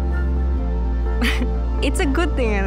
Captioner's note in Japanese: 笑い